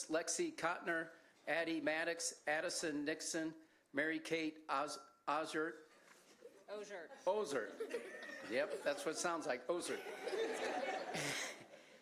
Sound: laughter

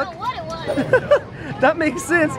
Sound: laughs

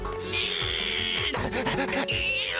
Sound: grunting

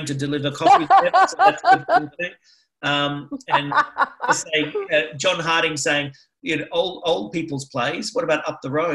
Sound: laughs

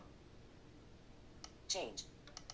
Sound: click

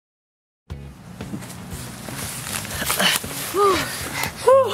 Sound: leaves Rustling

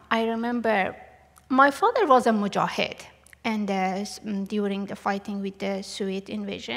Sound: non-english

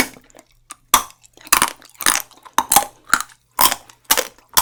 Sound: the straw is crunchy

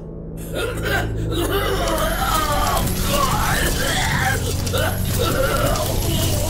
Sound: Krogarr coughing and heaving; metal clanging

